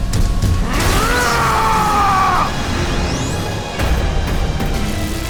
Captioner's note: screams